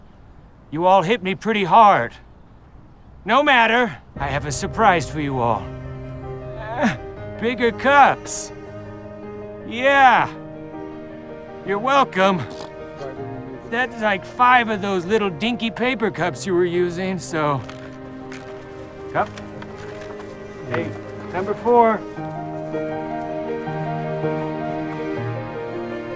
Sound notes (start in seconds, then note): 5.5 emotional music; 12.5 players scoffing